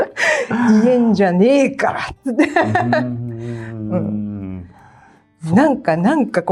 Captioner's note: laughs; laughs